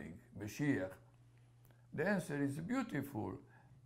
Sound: hebrew

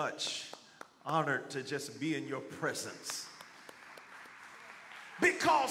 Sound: congregation clapping

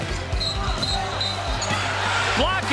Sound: whistle blows

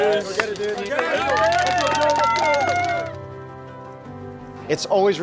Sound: crowd cheers

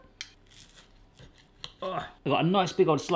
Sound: grunts

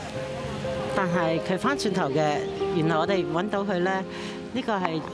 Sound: speaking cantonese language

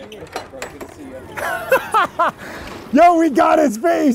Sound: laughing

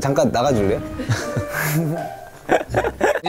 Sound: haha

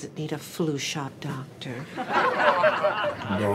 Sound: studio audience laughter

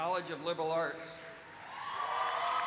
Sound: cheers and applause

